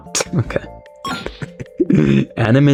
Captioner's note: laughs to myself